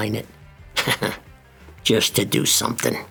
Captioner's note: angry laugh